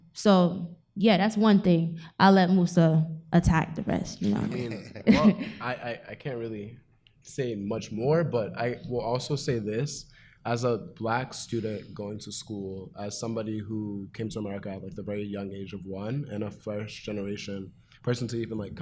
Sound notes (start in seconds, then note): 4.2 laughs